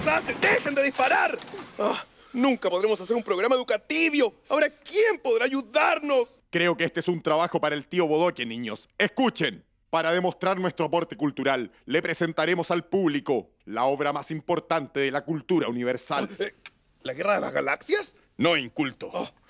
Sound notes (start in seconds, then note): 1.7 sigh